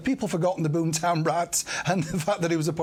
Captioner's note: laughter